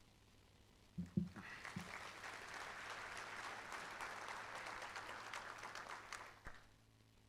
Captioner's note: applause